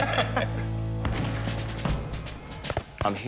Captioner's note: laughs; gunshot